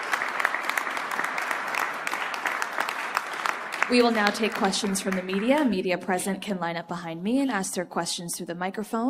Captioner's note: applause